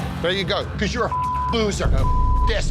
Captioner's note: beep